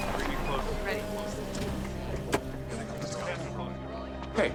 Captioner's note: reporters talking